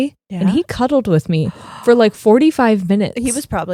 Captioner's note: gasping